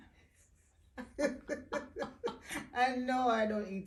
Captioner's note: both chuckling